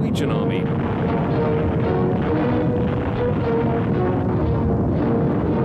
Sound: airplane propellers running

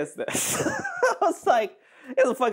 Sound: laughing

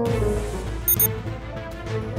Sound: pager beeps

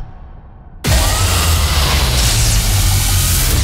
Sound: monster squealing; intense music

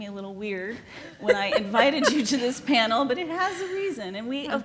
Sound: laughs

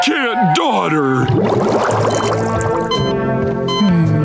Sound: beeping

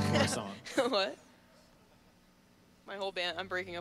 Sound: laughing

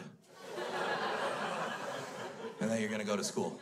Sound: crowd laughs

